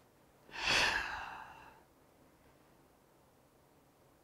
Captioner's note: sighs